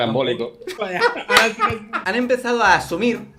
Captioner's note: giggles